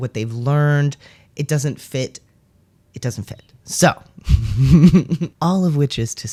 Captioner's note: laugh